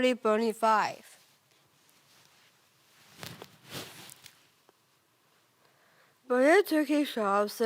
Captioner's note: fabric rustling